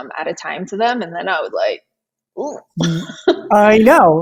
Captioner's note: laughs